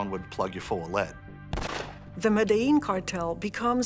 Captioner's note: shot firing